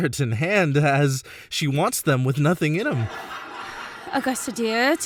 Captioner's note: laughing